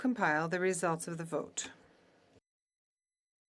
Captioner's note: speaking in FRENCH